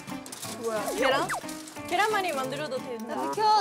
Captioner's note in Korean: 뒤적뒤적